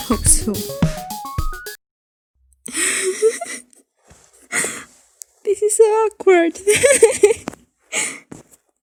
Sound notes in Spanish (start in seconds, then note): 2.7 Risas; 6.8 risas